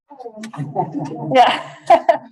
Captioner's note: laughs; laughter